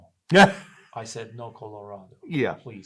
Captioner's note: laughs